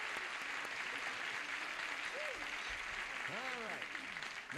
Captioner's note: cheering and applause